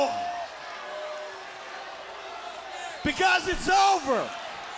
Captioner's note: crowd cheering